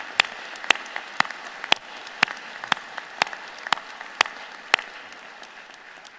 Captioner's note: applause